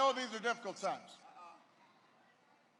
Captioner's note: none